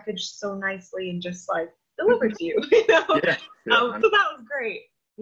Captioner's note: laughs